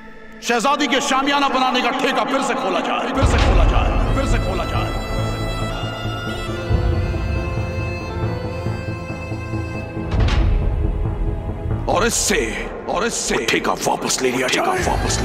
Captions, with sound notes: I am putting out a fresh contract for the princess's marquee! [echoing] And the contract be taken away from Ali!